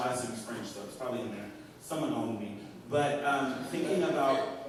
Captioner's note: laughter